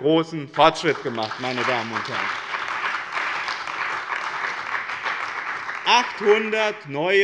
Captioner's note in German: Beifall bei dem BÜNDNIS 90/DIE GRÜNEN und der CDU